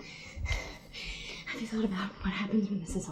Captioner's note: breathing heavily